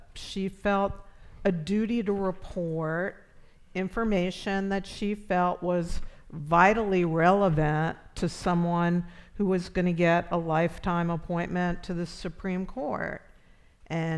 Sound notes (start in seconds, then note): none